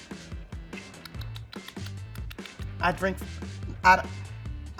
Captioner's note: lips smacking